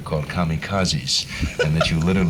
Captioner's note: laughter